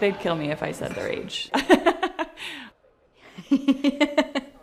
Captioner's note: laughs